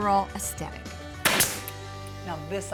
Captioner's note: staple gun